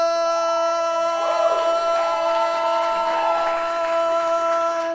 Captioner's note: audience cheering